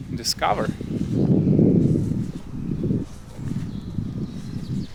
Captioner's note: air whooshing